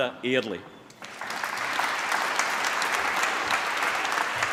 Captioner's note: applause